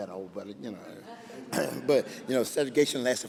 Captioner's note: laughing